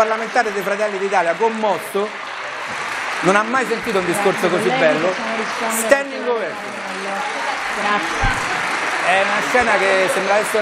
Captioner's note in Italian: Applauso